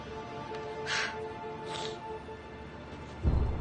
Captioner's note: sniffles